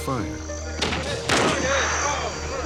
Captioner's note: gunshot